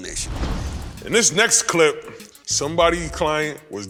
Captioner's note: air whooshing